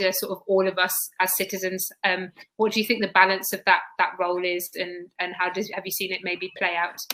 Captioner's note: erm